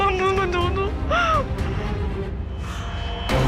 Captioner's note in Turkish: Ağlama sesi